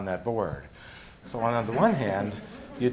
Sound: gentle laughter

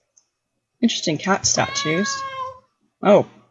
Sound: statue meows

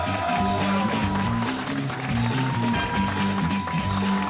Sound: cheers and applause

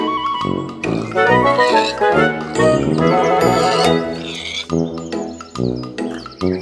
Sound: pig squeals

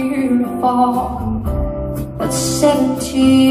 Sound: none

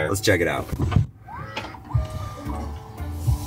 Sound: motor whirring; gentle music

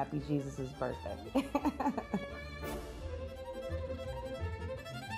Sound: laughs; happy violin music

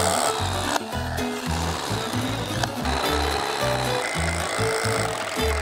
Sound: guitar music; loud constant drilling

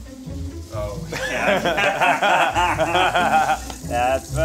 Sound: laughing

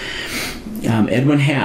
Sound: inhaling heavily

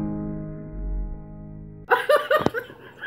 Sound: maniacal Laughter

